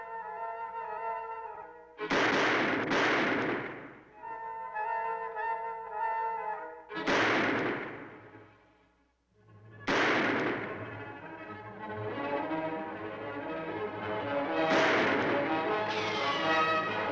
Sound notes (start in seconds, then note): 0.2 dramatic music; 2.0 guns firing